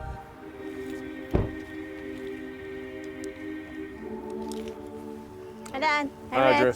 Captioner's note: eerie choral music; door slams